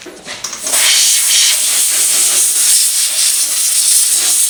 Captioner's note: spraying